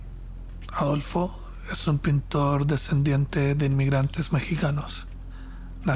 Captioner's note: narrator speaking Spanish